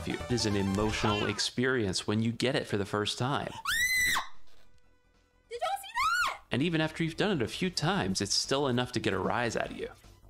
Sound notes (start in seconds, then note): 5.9 screaming in triumph